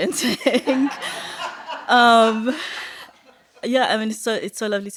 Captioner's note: laughter